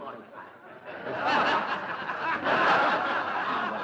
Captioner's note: audience laughter